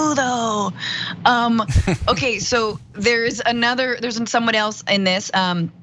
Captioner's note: laugh